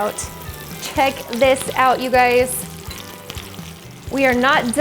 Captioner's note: pan sizzles